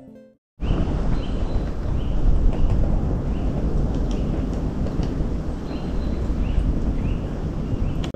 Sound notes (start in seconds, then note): 1.4 birds singing, woodpecker sounds